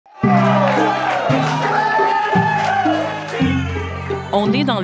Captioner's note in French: cris de joie